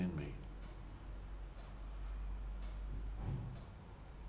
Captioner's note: clock ticking